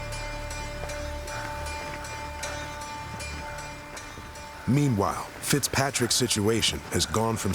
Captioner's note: footsteps